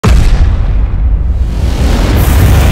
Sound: explosion booming; fire raging

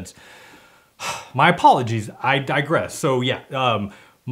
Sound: sighs

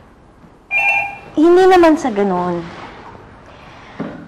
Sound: phone rings

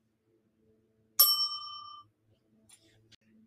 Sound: bell dings

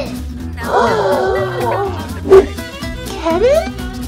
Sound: groaning

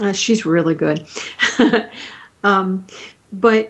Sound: chuckling

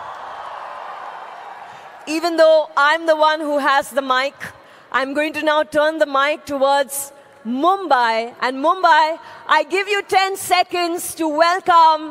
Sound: cheering

